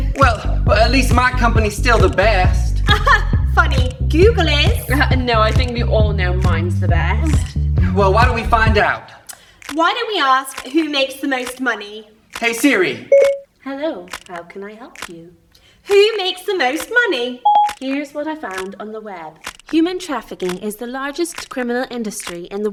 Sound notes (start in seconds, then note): 13.1 Siri beeping